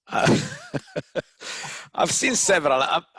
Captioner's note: laughs